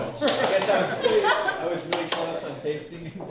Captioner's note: laughing